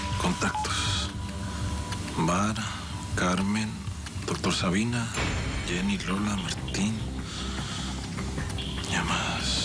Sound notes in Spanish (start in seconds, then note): 1.5 Habla para sí